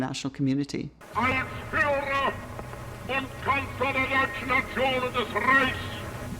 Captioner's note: Hitler speaking German